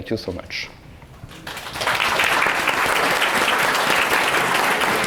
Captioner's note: audience clapping